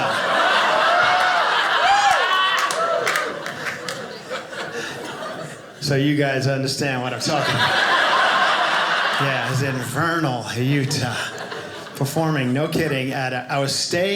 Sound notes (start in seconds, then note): 0.0 audience laughing; 7.1 audience laughing